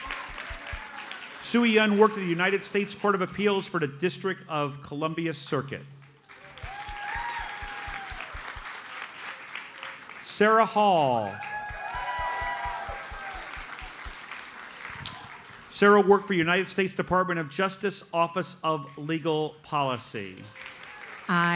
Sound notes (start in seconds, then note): 6.5 audience applauds; 11.6 audience cheers and applauds